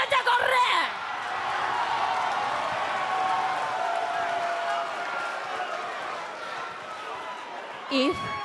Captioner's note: crowd cheering